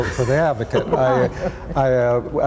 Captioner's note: laughs